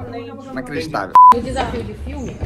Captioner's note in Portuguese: som de bipe